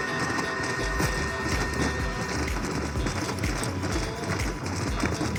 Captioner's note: weapon Inventory Sounds